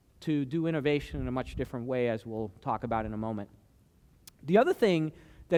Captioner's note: none